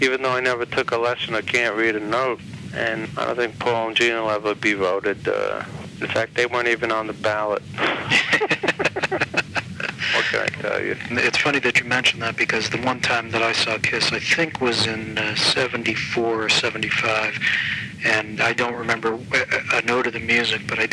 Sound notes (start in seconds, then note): 7.7 laughs